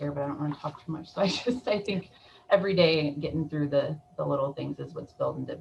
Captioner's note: chuckles